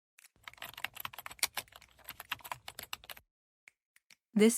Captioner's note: keyboard typing